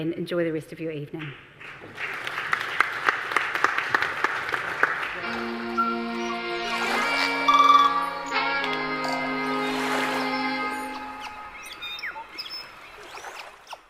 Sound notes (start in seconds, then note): 1.5 audience applause; 5.0 soothing music